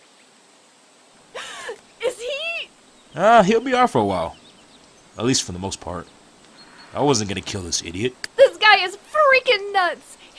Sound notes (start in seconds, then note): 1.4 gasp